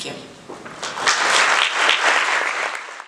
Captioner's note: applause